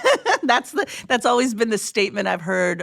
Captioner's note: laughs